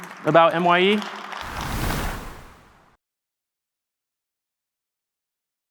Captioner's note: audience applauding